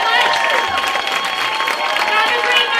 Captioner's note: cheers, applause